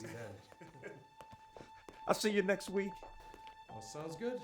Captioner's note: laughs